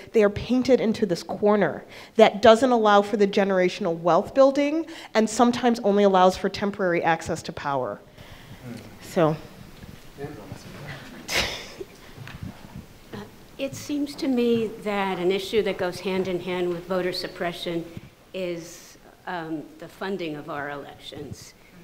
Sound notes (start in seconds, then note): 10.5 man speaks off mic; 11.0 laughs